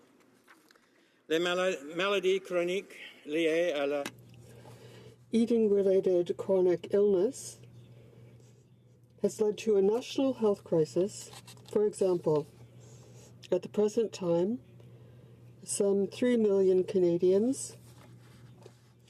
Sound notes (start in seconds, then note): 5.6 speaking French